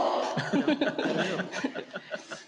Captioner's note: laughter